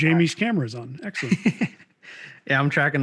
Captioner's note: laughing